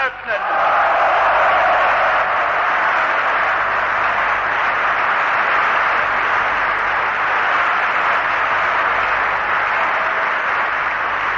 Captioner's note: applause